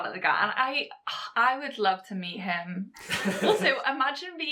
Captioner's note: host laughs